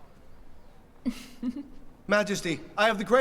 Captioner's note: giggles